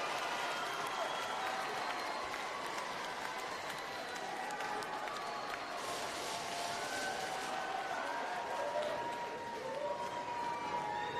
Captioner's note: applause